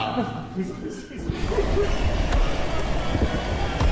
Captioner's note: spooky voices; scary music